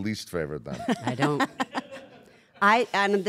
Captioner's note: laugh